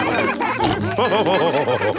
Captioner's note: laughing; all cheering